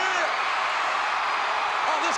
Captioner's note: audience cheering